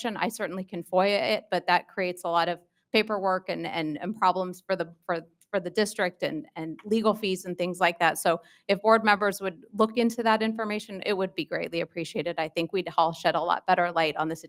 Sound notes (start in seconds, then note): none